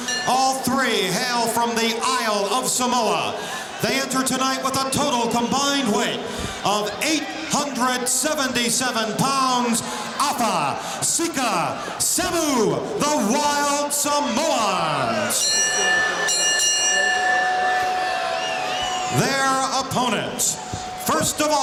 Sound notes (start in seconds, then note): 15.1 bell ringing